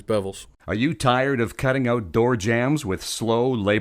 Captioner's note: voiceover